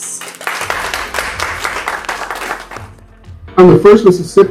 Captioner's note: audience clapping